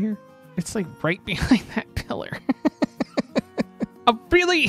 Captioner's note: laughs awkwardly